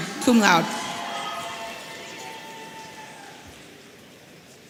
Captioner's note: audience cheering